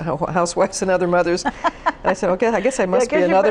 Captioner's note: laughs